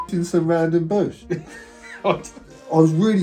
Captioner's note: laughs